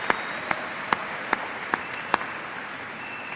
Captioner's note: cheers and applause